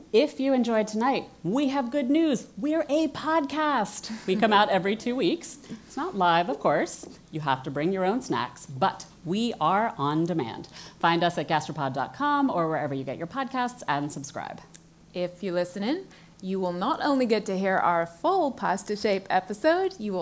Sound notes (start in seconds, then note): 4.1 laugh